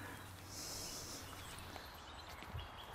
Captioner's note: he snorts quietly